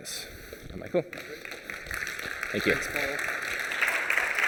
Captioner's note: applause